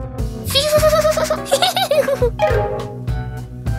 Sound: laughing

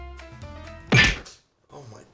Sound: whump!

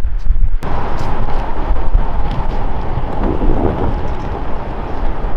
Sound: The sound of Air Force One landing as a Boeing C-32

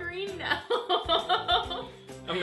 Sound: laughs

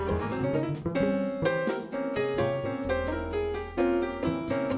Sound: none

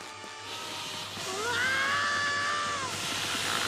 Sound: hissing; screaming

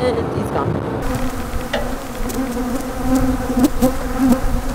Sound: flies buzzing

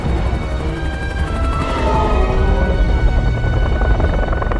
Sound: rhinos roaring

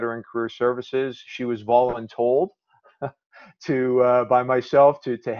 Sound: chuckles

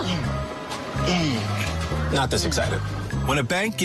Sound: grunting

